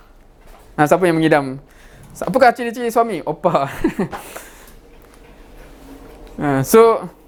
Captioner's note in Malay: ketawa